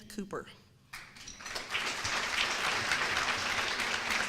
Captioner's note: applause